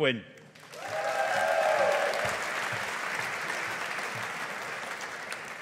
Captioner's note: audience applauding